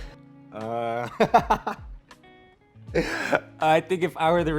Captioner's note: laughing